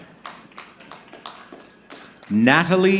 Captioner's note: audience clapping